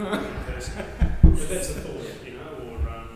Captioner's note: group laughs